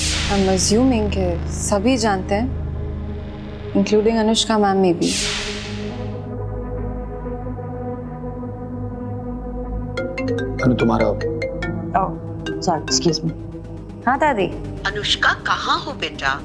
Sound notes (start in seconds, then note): 6.6 tense music playing; 9.5 phone ringing